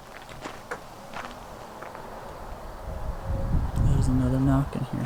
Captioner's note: knock